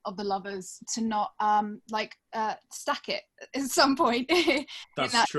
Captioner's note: laughs